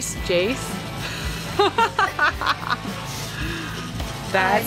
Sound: laughter

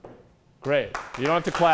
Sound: applause

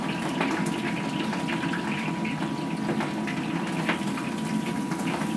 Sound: loud kitchen fans

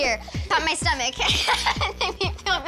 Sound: laughter

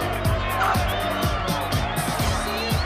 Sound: whistling

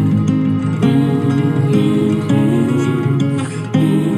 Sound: hmm hmm Hmm Hmm; hmm hmm, hmm hmm

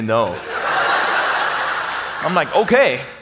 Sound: audience laughs

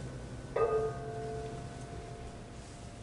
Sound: gong

